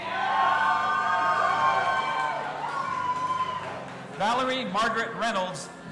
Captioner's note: audience applauding and cheering